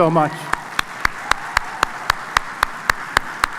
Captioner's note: applause